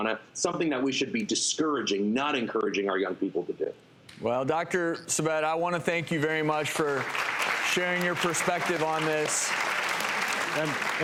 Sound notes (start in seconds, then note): 6.3 audience clapping